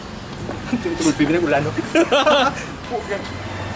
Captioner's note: laugh